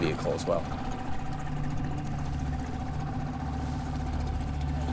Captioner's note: engine chugging